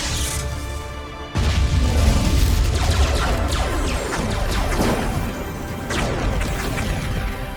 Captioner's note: cannons blasting; explosions booming